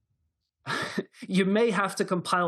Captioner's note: laughter